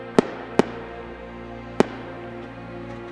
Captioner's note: gunshots